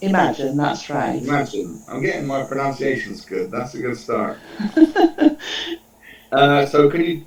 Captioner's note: chuckles